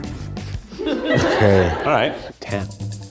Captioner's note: audience laughs